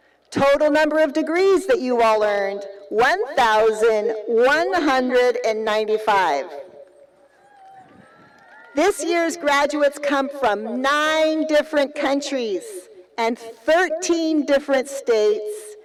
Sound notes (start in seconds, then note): 7.3 cheering